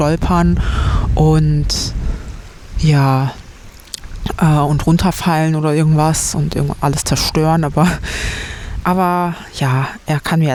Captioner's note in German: japst